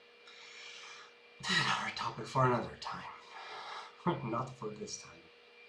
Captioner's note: staggered sigh